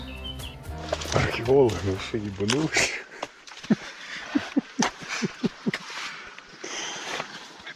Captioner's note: laughter